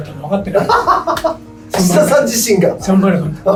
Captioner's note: laughs